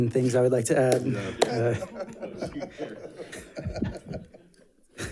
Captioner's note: people laughing